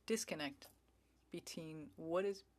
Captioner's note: speaking French